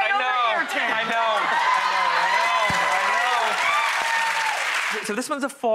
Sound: audience cheers

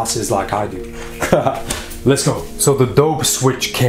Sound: laughs loudly

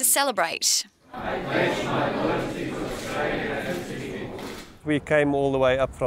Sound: crowd speaking in unison

